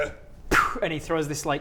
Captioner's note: poof